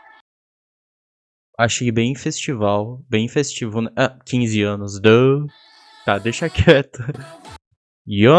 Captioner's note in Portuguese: risos